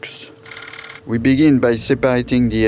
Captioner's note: slide rolling